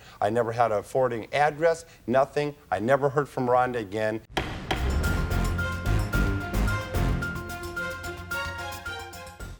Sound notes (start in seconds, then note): 4.3 gavel bangs; 4.4 tense music